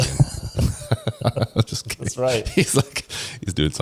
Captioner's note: laughs